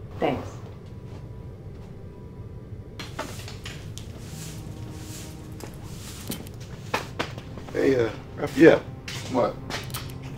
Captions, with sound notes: - Thanks. (tool clicking) - Hey Raphael. - What?